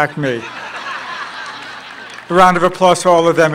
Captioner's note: laughter